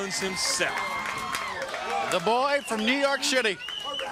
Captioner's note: crowd cheering